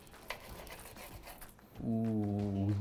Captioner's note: knife sawing